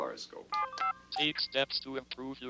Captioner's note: machine beeps